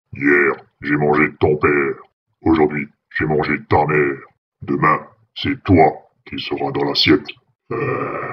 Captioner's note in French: Rire diabolique